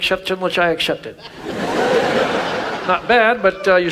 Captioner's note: audience laughs